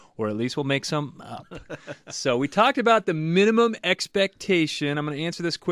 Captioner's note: laughs